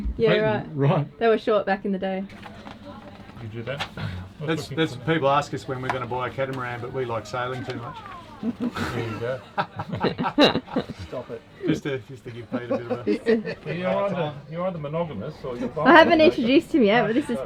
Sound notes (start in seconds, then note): 8.3 laughing